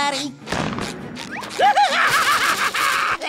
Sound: laughing

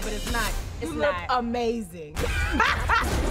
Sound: laughs

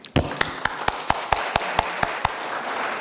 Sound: applause

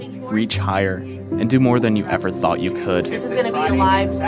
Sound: chattering

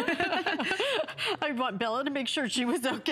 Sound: laughter; laughter

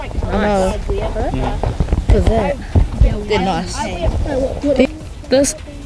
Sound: chatting

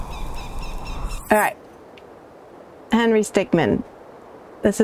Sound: bird chirping

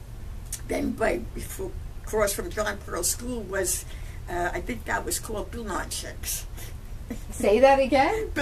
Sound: laughs

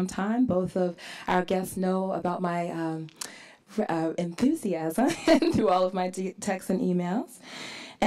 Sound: laughs

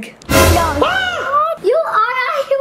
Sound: yells

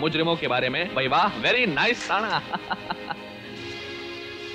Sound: laughs

